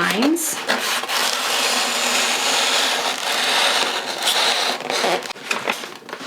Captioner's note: scissors cutting paper